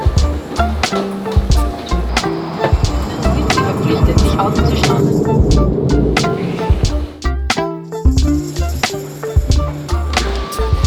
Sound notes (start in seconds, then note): 0.1 upbeat music; 2.8 plane engine roaring; 6.8 upbeat music